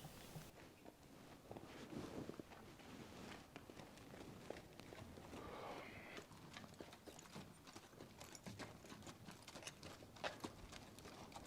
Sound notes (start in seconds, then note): 5.2 sighs